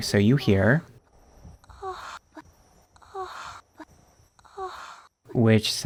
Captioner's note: Priscilla going Ahh repeatedly sounding like moans